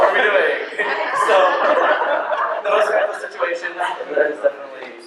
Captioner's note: laughter